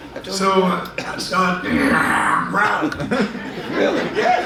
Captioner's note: laughs; growling